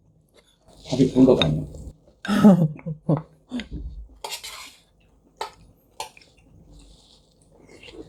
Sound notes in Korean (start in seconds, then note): 2.2 웃음소리